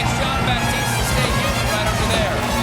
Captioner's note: applause